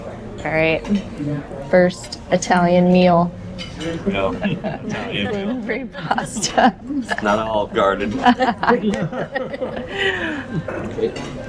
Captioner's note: laughter